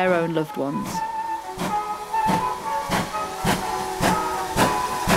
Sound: steam train departs

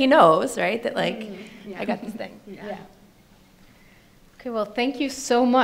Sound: panelists murmur agreement

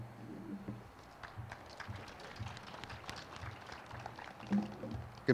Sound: crowd applauds

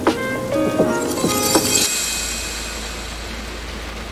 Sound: volume swelling

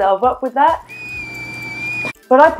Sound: whistle

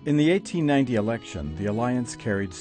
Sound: voiceover

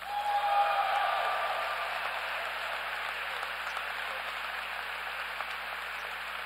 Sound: applause

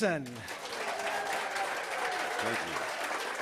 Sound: audience applauds

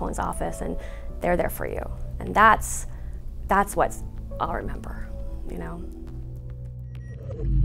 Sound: swoosh, beep beep, beep beep, beep beep

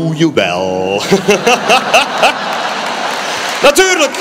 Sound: applause

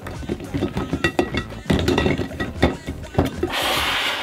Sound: bottles rattling

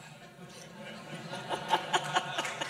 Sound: laughter; laughs; applause

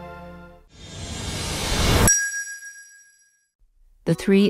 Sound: whoosh sound

